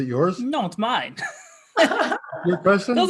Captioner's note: laughing